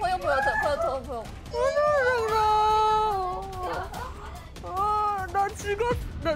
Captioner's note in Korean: 거의 흐느끼는 중